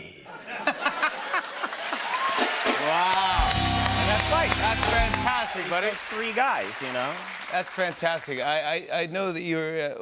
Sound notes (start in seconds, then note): 0.4 laughter and applause; 2.8 normal voice